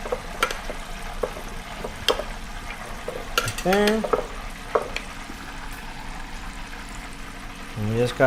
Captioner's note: spoon clicks